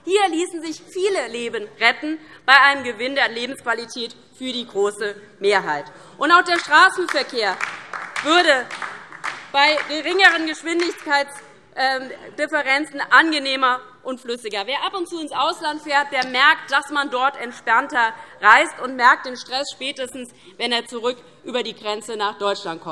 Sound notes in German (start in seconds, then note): 6.5 Beifall DIE LINKE